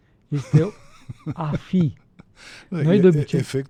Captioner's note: laughter